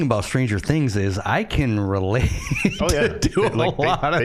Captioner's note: laughing